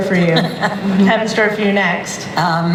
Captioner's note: laughter